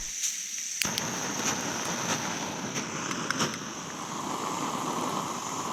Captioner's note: stove roaring